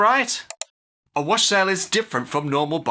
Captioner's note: click